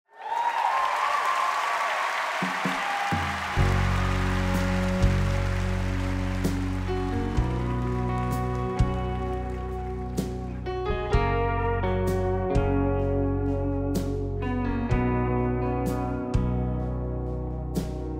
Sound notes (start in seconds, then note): 0.2 crowd applauding and cheering; 4.5 gentle music